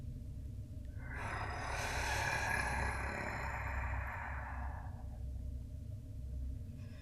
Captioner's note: growl